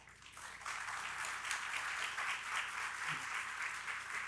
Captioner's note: audience applauding